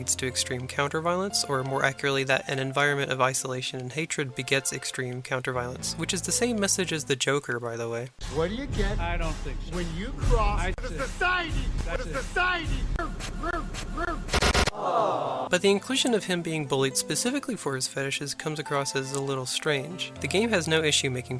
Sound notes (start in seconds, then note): 14.3 gunshots; 14.6 crowd awwing